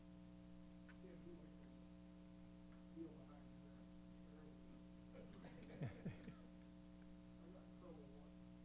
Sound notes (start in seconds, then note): 5.3 laughter